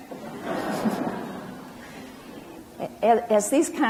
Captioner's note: audience laughs